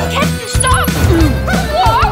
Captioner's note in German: Schuss